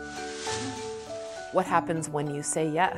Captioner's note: paper rustling